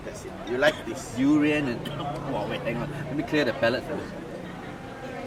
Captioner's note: coughs